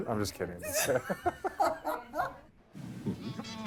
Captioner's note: laughter